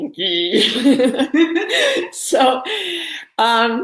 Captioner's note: laughing